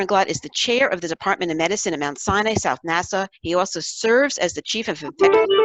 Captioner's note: phone ringing